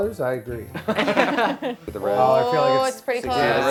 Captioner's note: laughter